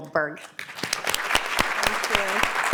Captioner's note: applause